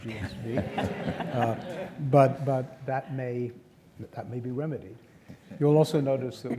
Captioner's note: laugh